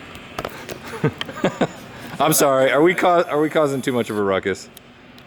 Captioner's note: laughing